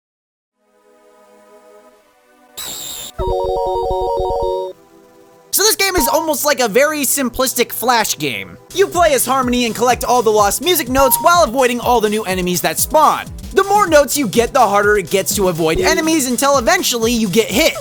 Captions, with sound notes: *SCREE* So this game is almost like a very Simplistic flash game. You play as Harmony and collect all the lost music notes while avoiding all the new enemies that spawn The more notes you get the harder it gets to avoid enemies until eventually you get hit